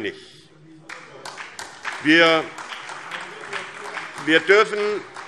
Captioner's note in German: Beifall SPD und vereinzelt BÜNDNIS 90/DIE GRÜNEN